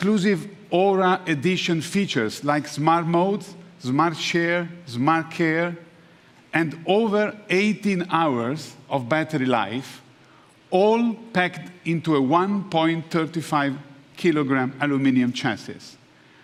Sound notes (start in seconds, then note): none